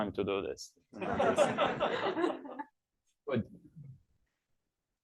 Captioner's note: laughing